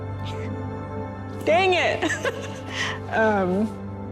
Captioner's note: chuckling